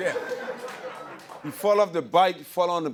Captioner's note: laughter